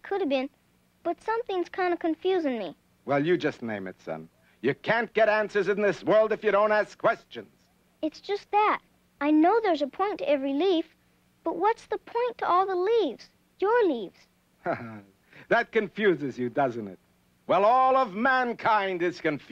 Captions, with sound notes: But something's kind of confusing me. - Well, you just name it, son. You can't get answers in this world if you don't ask questions. - It's just that. I know there's a point to every leaf, but what's the point to all the leaves? Your leaves? (chuckling) - That confuses you, doesn't it? Well, all of mankind is confused.